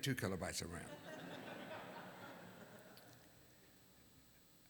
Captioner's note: laughter